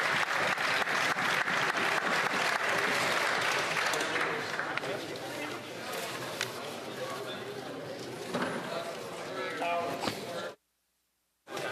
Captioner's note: cheering and Applause